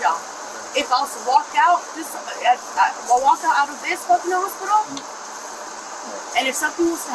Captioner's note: stuttering